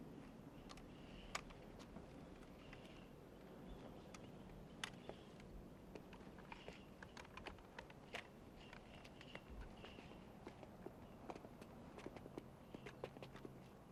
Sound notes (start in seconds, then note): none